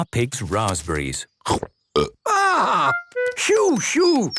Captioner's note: burps